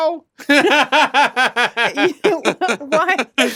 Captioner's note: laughs